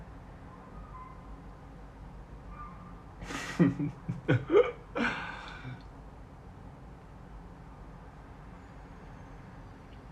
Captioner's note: cackling